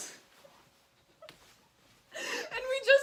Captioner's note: laughing